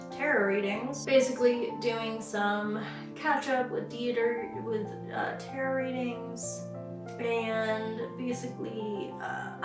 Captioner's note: stammering